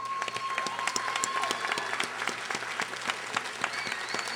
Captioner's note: audience applauding